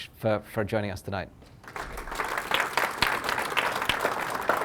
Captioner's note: applause